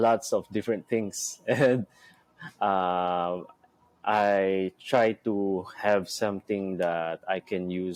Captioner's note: chuckles